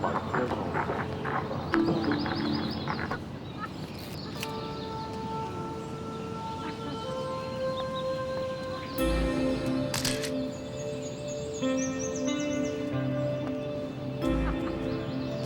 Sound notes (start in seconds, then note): 2.2 click; 8.2 camera shutter clicks; 14.3 laughing